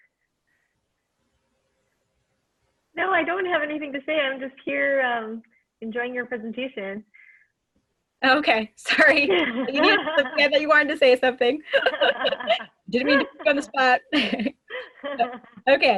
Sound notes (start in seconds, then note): 9.1 laughs; 11.6 laughter